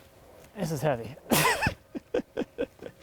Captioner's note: laughs